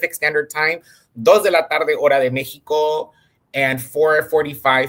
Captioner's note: speaks in Spanish